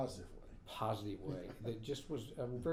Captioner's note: laughing